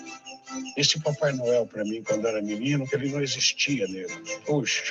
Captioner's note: speaks Portuguese